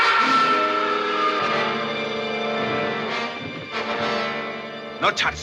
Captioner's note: SCREAMlNG